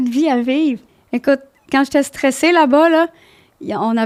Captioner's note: in french